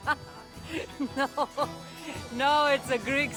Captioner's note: laughing; laughs